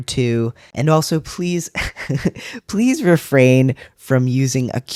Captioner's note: laugh